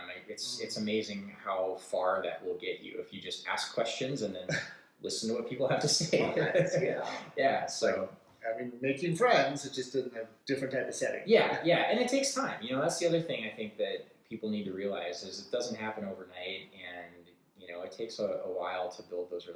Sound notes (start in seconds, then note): 7.7 laughs